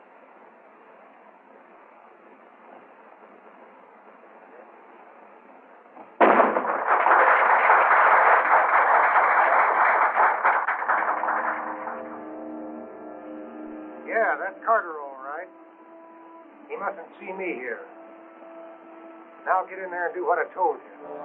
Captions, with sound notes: [gunshot] [applause] [ominous music] Yeah, that's Carter all right. He mustn't see me here. Now get in there, and do what I told you.